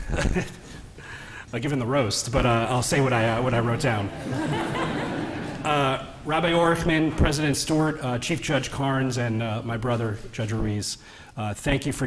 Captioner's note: laughter